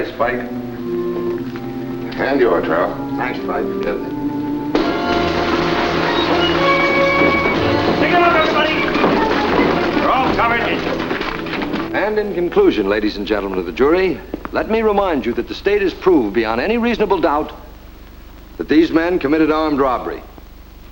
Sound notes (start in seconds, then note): 4.7 gunshots firing; 6.1 dramatic music